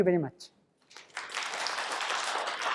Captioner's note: applause